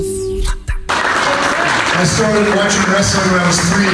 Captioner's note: audience applauding